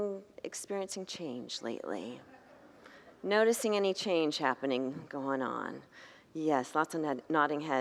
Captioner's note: congregants laugh